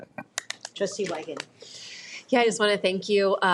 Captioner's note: people applauding